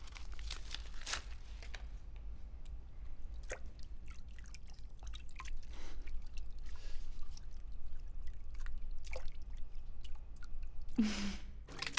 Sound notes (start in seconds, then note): 11.0 chuckles